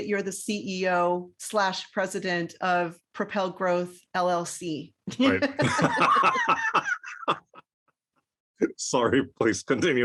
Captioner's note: laugh